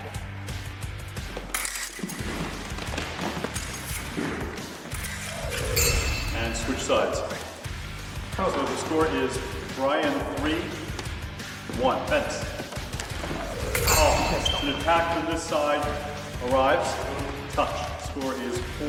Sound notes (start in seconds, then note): 6.2 blade sound effect; 13.4 blade sound effect